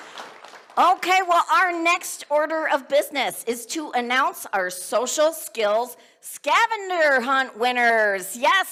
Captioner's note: cheers and applause